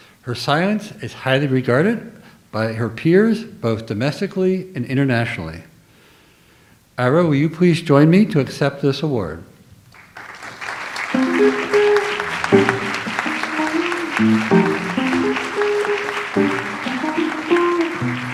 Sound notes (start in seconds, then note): 10.0 audience applauds; 11.1 light jazz music